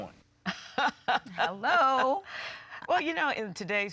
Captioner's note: laughing